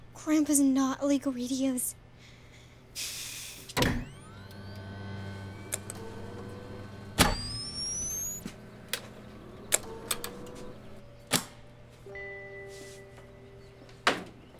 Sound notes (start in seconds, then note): 2.2 sighs happily; 3.8 electrical buzzing